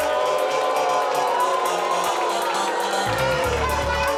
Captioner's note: audience oohing